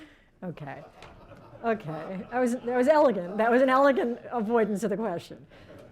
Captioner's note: laughter